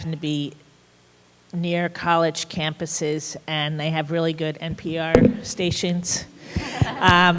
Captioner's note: laughter